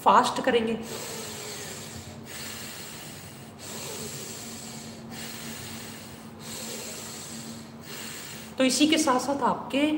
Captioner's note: fast deep breathing